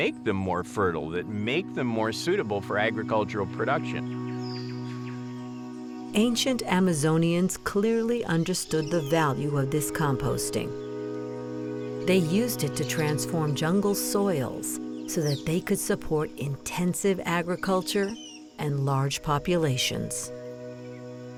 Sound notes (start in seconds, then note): 4.5 birds chirping